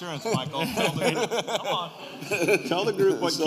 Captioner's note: laughter